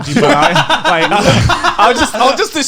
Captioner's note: laughing